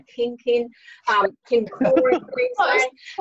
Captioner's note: laughing